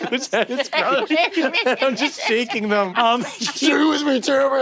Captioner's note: laughing